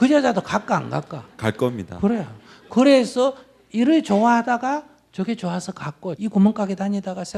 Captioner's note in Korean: 청중 웃음